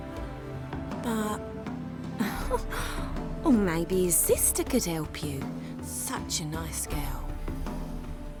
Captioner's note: giggle